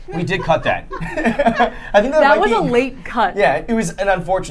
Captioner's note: laughing